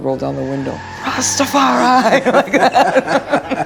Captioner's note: laughing